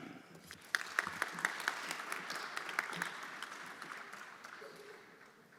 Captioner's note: everyone applauding